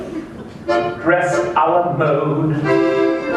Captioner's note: laughter